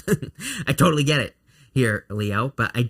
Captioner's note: chuckling